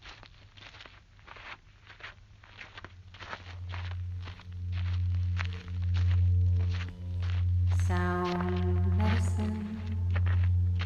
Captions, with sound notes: [footsteps, droning] [singing] Sound medicine